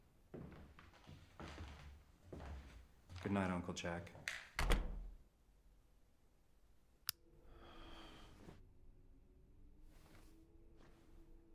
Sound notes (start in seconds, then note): none